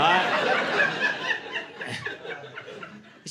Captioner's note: laughter